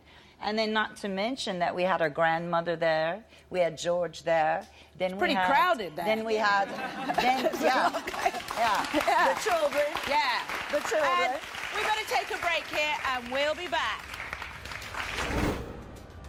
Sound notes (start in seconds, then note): 6.6 audience laughing; 13.8 audience applauding; 14.8 dramatic soft music